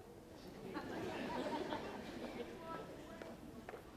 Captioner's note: audience laughs